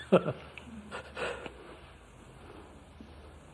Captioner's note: laughs